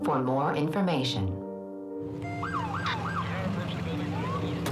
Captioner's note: sirens